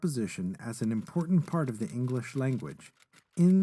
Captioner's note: sound of typing